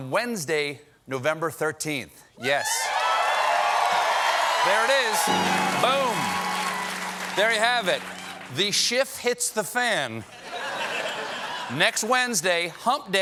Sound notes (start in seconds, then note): 2.9 applause